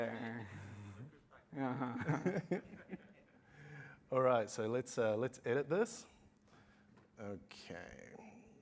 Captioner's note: laughter